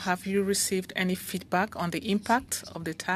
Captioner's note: speaking French